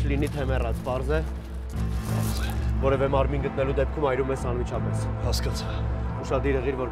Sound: Gevork speaking in foreign language; Zhozef speaking in foreign language

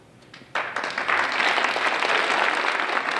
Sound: applause

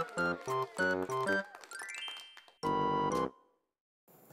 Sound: applauding

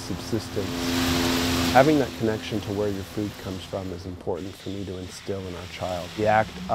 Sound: water spraying

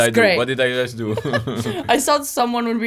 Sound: laughing

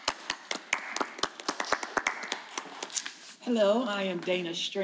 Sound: panel applauding

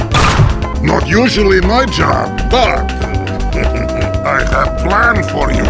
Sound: gunshots and spawning noises; sinister laughter; wood scraping noises

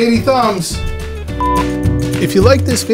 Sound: beep

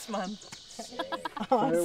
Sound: laughter

